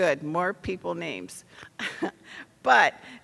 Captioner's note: laughs